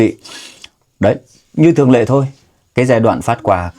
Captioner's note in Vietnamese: khịt mũi